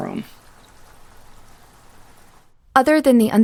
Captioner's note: rain pattering